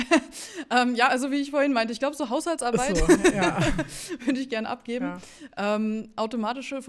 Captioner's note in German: gelächter